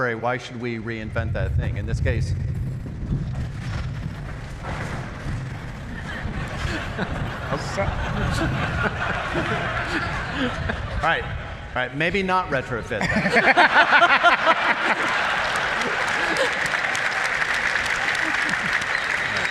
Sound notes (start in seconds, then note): 2.3 strong wind blowing; 6.0 laughter; 13.0 laughter; 15.5 applause